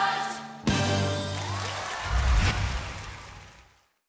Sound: applause

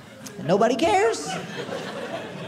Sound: audience laughing

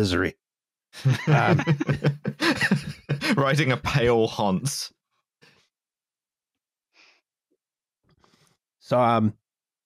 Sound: laughter

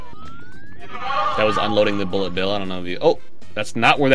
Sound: echoing

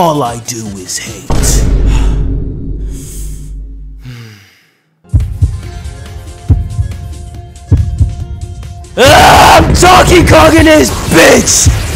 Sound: exhale; inhale

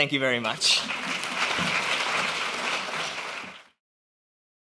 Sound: applause

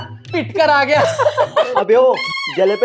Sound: laughing

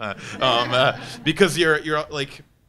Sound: panelists and audience laughing

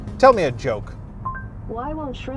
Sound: notification dings

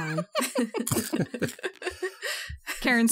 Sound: all laugh

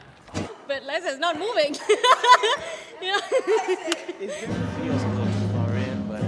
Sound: laughs

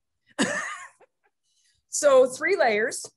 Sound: laughing

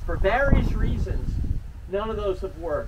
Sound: wind blowing

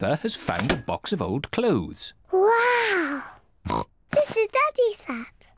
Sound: oinks

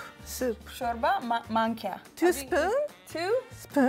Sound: speaking Amharic

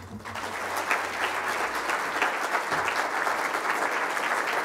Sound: crowd applauding

